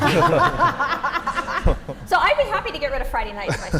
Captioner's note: laugh